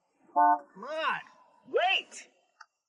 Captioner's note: car horn honking